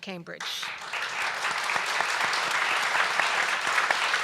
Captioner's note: applause